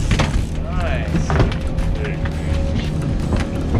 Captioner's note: reel cranking; fish thrashing